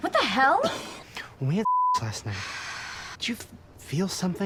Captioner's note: beep